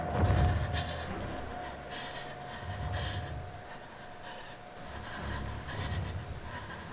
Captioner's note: Connie sobs; feathers flaps